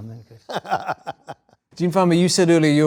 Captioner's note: chuckling